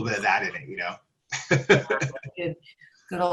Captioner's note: laughs